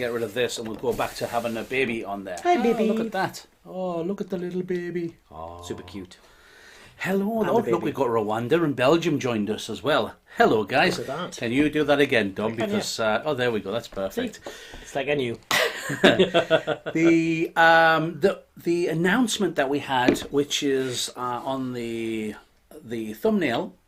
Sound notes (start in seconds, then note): 15.6 laughing